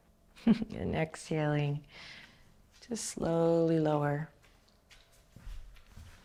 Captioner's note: chuckles at Benji